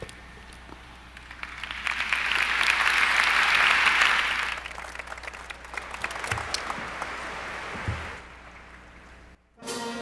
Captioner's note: applause